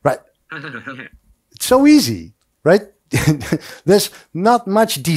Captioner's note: laughs